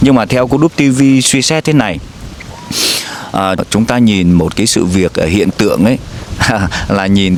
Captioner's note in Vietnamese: khịt mũi